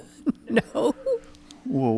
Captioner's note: giggling